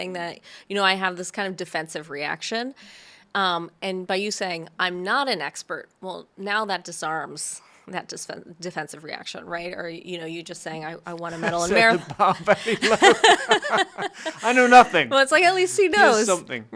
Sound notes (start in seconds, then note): 13.3 both laughing